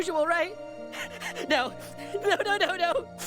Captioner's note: sniffling; panting